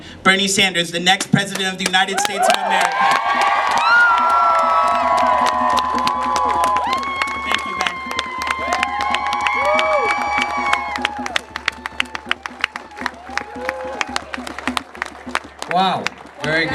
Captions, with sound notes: The next president of the United States of America! (Cheering, clapping!!!!) Thank you Bend! (Cheering, drumming)